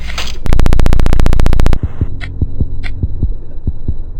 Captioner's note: static crackling